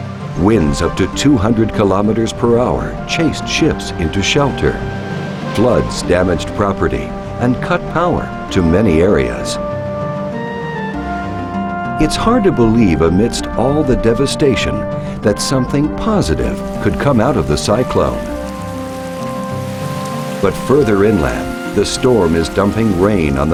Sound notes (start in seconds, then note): 18.0 hissing rain